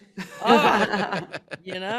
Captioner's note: everyone laughing